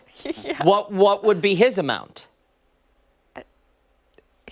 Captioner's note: laughter